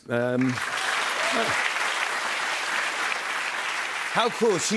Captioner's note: cheers and applause